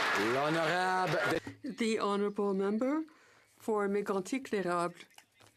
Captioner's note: some Applause